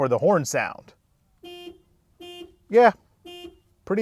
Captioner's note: horn beeping